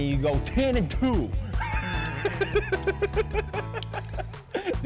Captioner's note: laughs